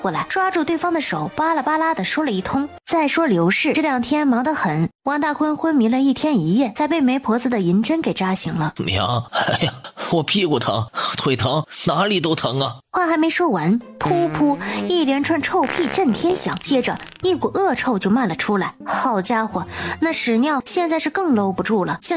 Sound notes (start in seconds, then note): 14.0 farts